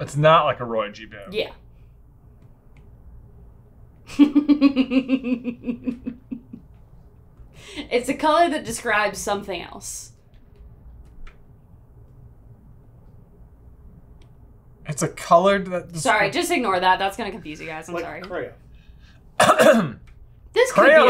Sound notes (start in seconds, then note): 4.1 laughs